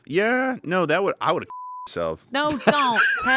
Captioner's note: beep